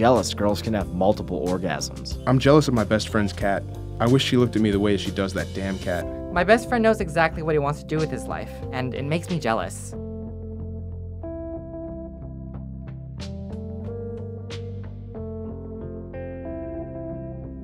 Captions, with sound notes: girls can have multiple orgasms. - [Voiceover] I'm jealous of my best friend's cat. I wish she looked at me the way that she does that damn cat. - [Voiceover] My best friend knows exactly what he wants to do with his life, and it makes me jealous. (slow music)